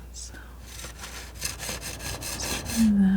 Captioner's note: metal scraping